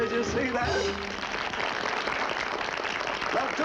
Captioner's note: applause